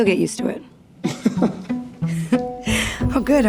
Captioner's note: laughs